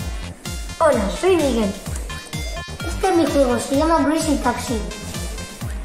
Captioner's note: speaking in foreign language